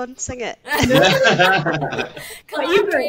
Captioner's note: all laugh